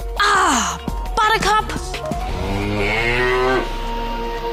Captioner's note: cow mooing